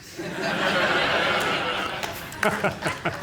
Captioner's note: laughter; laughs